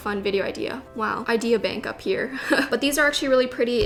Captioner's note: giggles